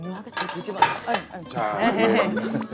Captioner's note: dropping